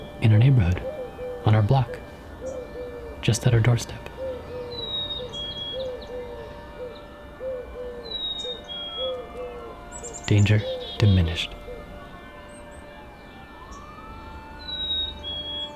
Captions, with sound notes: In our neighborhood, on our block, just at our doorstep. Danger diminished. [birds chirping]